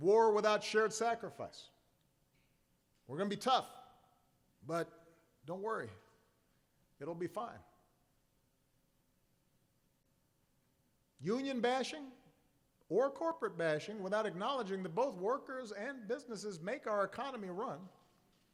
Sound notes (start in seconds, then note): none